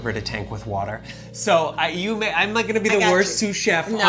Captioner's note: stammers